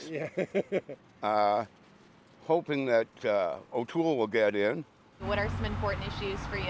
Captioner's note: laughter